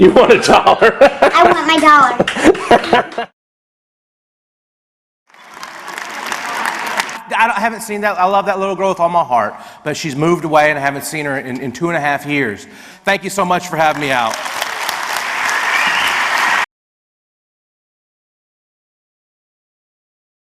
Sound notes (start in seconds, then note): 2.2 speaker laughs; 5.3 audience claps; 13.7 audience applauds